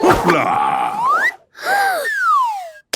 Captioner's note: Peppa gasps